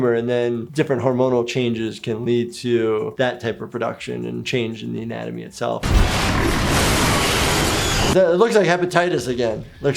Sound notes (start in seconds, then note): 5.8 growling